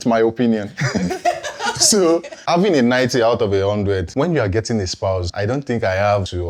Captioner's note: laughs